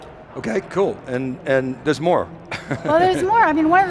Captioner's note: laughs